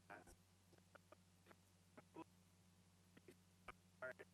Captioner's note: stuttering audio